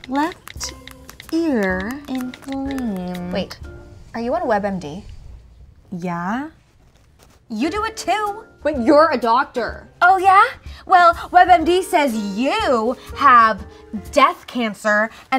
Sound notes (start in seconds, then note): none